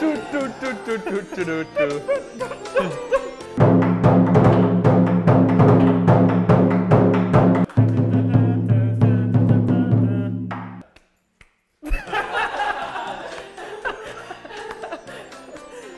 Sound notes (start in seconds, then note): 0.1 goofy music; 10.5 slow claps; 11.9 all laughing uproariously